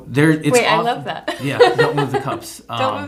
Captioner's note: laughs